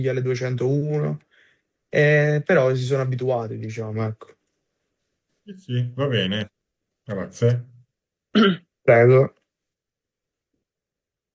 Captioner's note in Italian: schiarire la voce